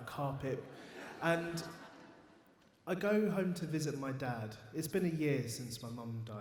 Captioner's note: audience laughs